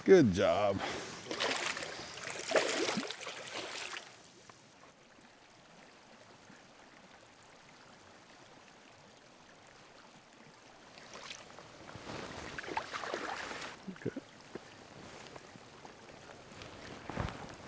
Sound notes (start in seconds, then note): 0.0 chuckling; 3.3 water splashing; 9.0 water dribbling